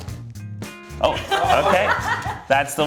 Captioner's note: laughs